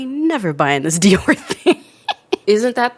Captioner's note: laughs